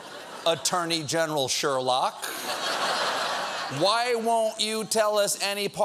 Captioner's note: laughter